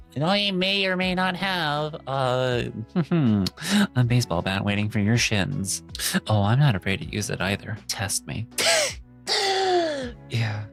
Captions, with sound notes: and I may or may not have, mm-hmm, a baseball bat waiting for your shins. Oh, I'm not afraid to use it either. Test me. (gasping) Yeah.